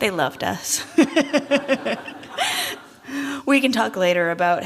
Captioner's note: laughter